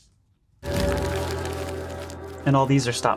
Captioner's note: paper rustles